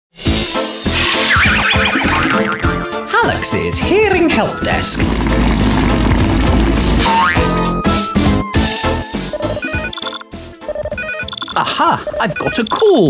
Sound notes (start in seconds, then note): 0.2 playful music; 9.3 phone ringing